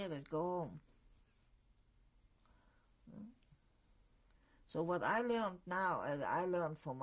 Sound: pauses for 3 seconds

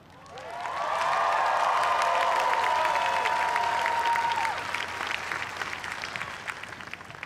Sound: cheering and applause

